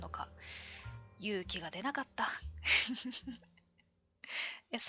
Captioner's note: laughs